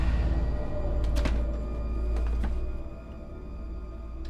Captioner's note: dark eerie music; door clicks